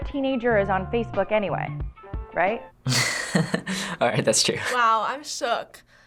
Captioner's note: chuckles